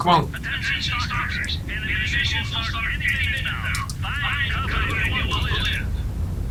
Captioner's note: radio warning